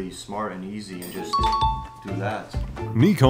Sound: chiming

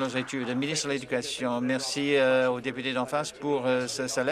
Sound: applause

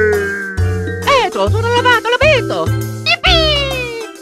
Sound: italian gibberish

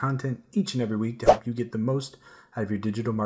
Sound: air whooshes

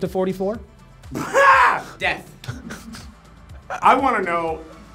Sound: exclaiming

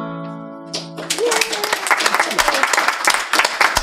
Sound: audience applauds

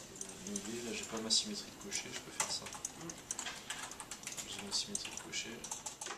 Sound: speaking in foreign language

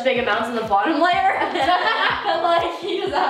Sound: laughing

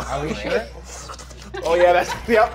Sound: slurping; low bass tone resumes

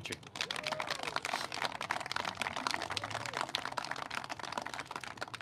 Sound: clapping

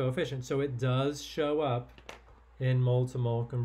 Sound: pen clanking

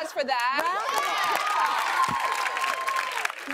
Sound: cheers and applause

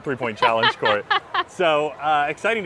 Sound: laughing

